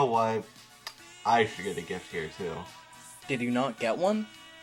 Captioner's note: lip smack